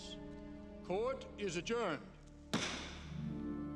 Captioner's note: gavel bangs